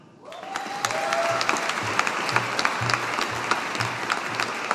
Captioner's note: audience applauding